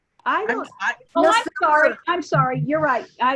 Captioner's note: members chattering